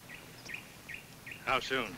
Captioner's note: bird tweets